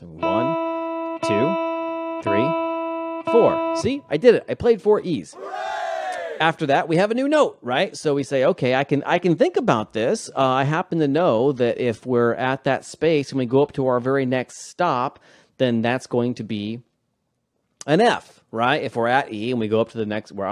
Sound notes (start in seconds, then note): 5.3 audience cheering